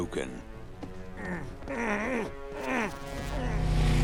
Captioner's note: grunting